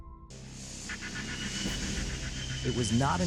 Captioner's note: machinery whirring